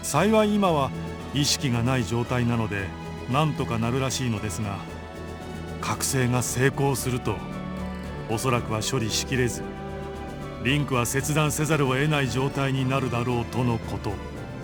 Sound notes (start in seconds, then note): none